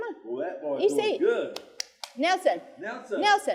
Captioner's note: speaking foreign language